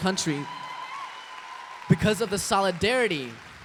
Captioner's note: applause